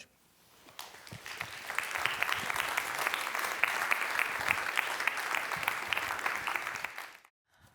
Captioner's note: applause